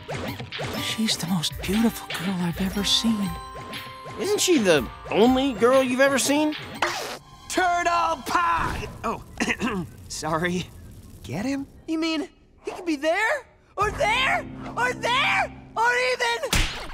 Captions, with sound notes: She's the most beautiful girl I've ever seen. Isn't she the only girl you've ever seen? Turtle p- Oh. [clearing throat] Sorry. Get him. You mean he could be there, or there, or there? Or even-